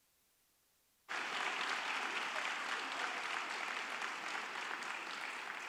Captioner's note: audience applauding